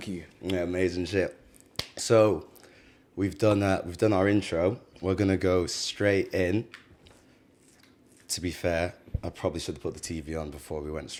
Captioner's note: claps hands